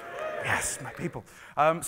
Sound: cheering

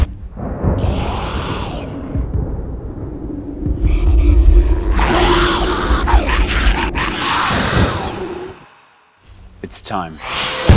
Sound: growling

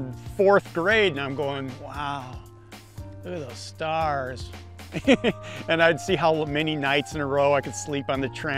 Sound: laughs

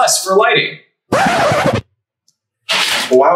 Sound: rewind sound

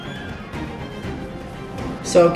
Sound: scrubbing

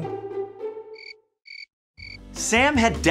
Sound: cricket chirp

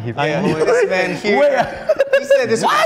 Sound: laughs

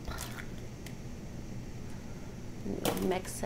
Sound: wet plopping

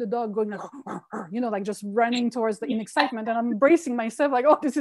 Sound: imitating the dog

